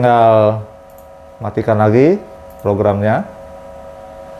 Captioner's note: clicking sound